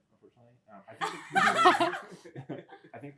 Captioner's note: laughter